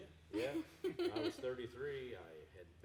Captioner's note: chuckling